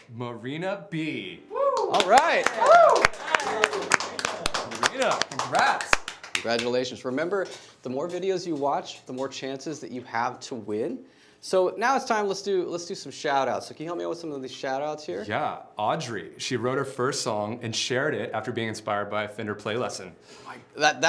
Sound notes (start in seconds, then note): 3.5 applause